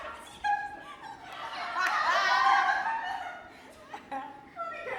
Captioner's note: higher pitched